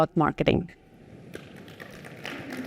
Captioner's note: applause